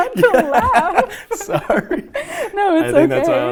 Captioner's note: laughing